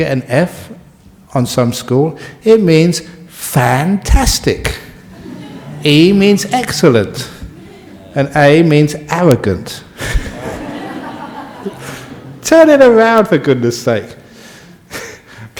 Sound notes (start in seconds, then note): 9.9 audience laugh